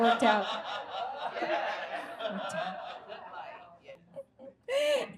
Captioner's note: audience laughs